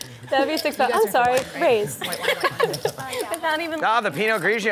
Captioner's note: laughs